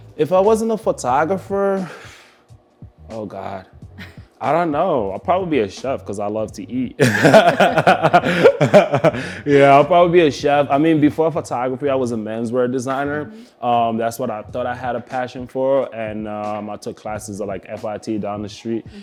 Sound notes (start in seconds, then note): 4.0 laughs; 7.0 both laugh